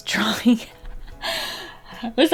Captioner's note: laughs